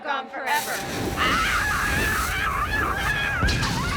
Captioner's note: screaming